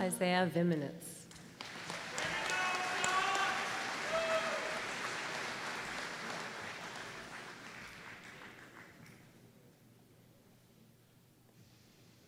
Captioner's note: applause